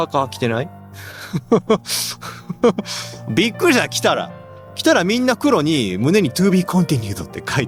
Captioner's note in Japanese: 笑い